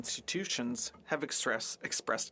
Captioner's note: speaking French